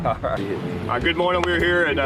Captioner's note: man chuckles